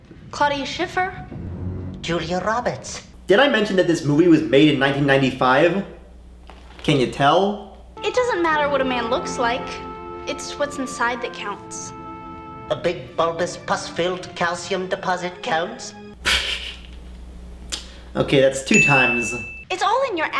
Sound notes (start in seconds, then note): 16.2 laughs